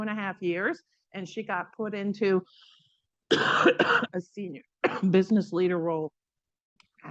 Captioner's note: coughs